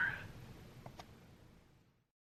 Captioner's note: silence